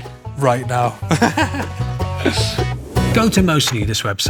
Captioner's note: laughs